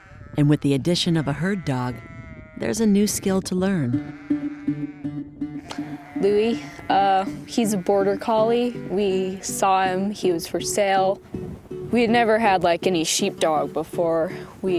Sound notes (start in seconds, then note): 4.4 upbeat music; 5.5 sheep bleating